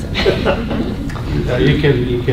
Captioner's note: laughter